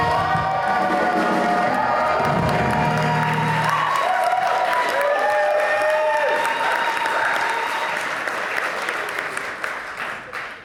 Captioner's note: audience cheers